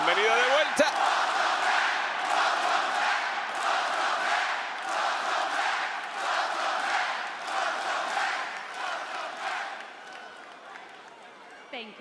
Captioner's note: applause